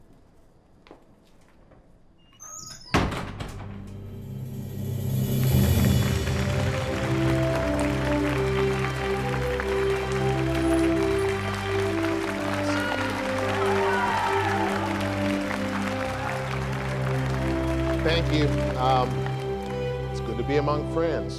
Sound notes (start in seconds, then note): 2.3 door closing; 5.0 melodic cinematic music; 12.6 audience cheering